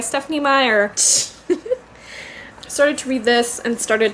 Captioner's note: laughs